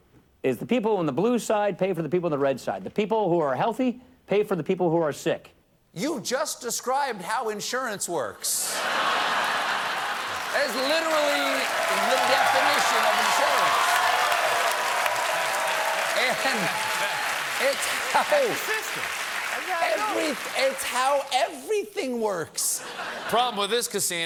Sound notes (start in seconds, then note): 8.6 laughter; 17.7 cheers and applause